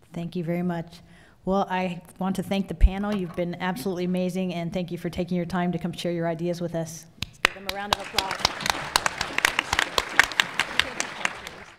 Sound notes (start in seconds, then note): 7.4 applause